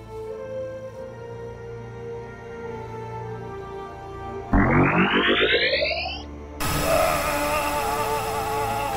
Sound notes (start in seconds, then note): 4.5 laser blast sound; 7.9 Grong screams